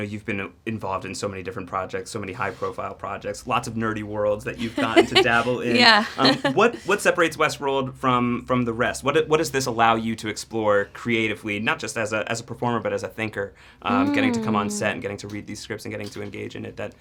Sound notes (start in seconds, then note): 4.6 laughs